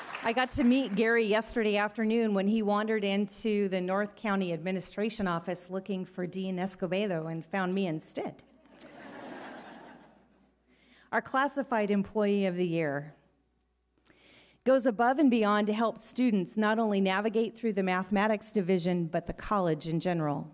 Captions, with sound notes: - I got to meet Gary yesterday afternoon when he wandered into the North County Administration Office looking for Dean Escobedo and found me instead. (audience laughing) Our Classified Employee of the Year goes above and beyond to help students not only navigate through the mathematics division but the college in general.